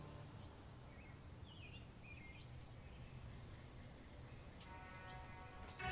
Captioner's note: birds chirping